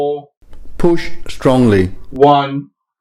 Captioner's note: voiceover